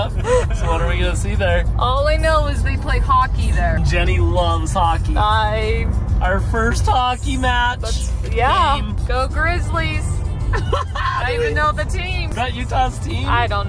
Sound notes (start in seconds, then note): 0.0 laughs; 10.5 laughs